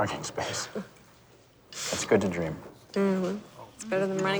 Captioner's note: chuckles